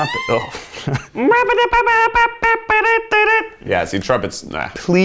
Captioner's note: imitating trumpet